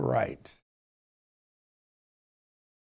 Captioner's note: silence